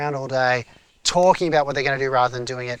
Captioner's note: talking